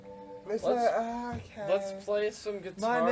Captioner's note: girlish voice